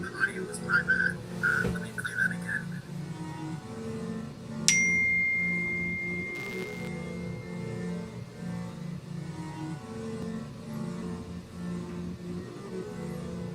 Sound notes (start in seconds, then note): 4.8 MacBook notification tone; 6.9 spooky music